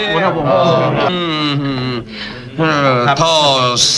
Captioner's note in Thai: เสียงเมา